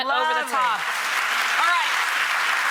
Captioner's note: audience applauds